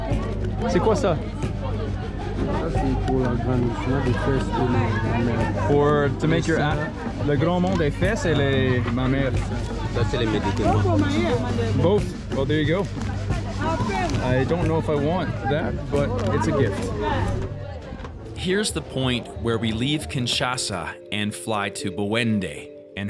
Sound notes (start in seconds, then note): 0.2 speaking foriegn language; 2.9 people speaking foriegn language